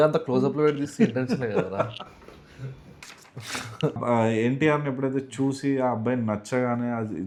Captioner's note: laughs